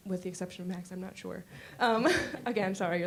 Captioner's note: chuckling